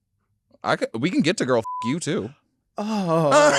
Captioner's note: beep